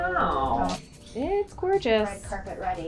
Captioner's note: woman's Voice